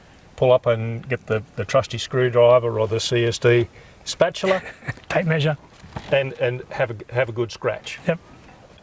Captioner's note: laugh